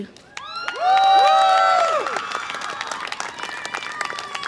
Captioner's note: audience applause and cheer